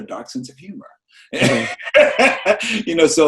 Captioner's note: laughs loudly